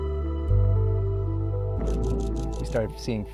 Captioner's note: camera shutter clicking